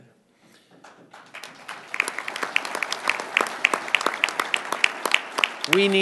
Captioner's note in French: Applaudissements